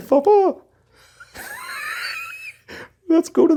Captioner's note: both laughs